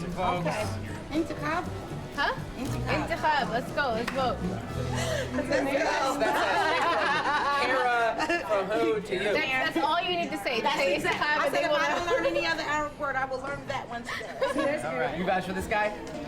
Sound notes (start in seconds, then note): 6.0 laughter; 13.5 laughs